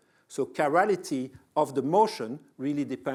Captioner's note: none